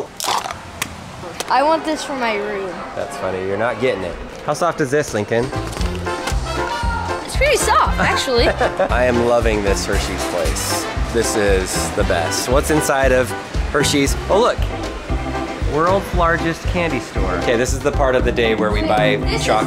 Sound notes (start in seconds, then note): 7.9 laughing